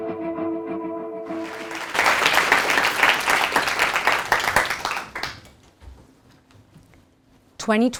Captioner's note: applause